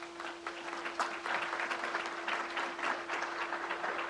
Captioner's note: crowd applauds